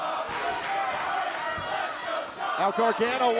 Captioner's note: fans chanting